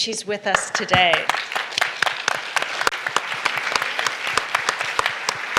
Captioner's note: applause